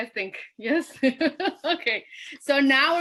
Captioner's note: laughs